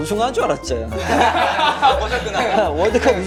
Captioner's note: laughing